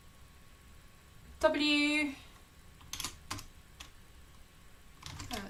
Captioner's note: keyboard clicking